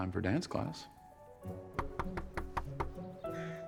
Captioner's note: knocking